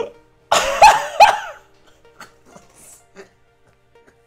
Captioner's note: gasp, followed by laugh